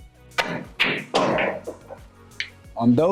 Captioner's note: balls clanging